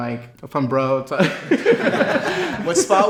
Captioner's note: everyone laughs